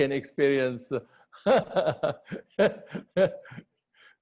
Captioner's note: laughter